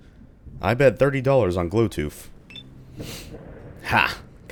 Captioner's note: thunder